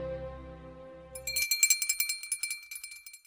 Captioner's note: bell tinkles